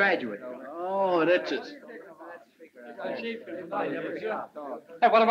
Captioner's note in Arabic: ثرثرة الحشد